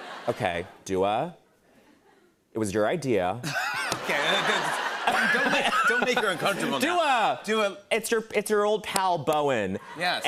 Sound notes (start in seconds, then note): 3.4 laughter